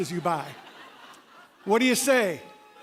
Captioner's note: laughter